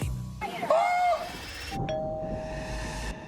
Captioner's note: doorbell rings